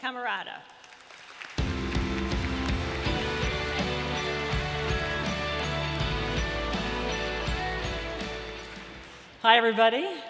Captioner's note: applause - Music